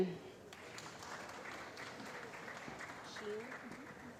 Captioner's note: applause